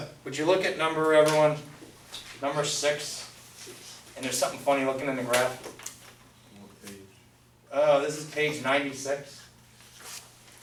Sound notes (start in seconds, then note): 6.7 voiceover